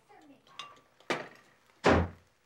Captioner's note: door slams